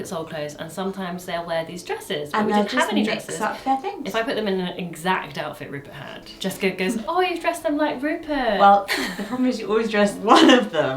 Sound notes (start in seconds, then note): 8.8 laughs